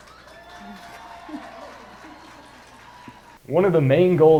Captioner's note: audience clapping and cheering